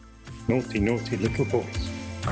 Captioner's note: male nanny accent